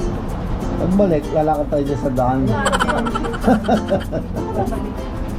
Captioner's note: laugh